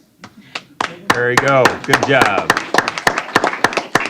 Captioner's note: applause